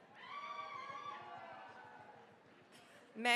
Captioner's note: cheering, applause